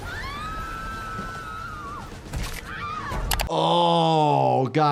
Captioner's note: people screaming